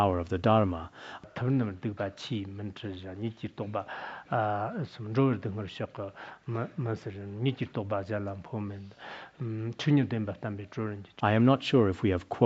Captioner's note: citing scripture in Tibetan